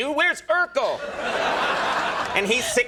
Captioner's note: audience laughing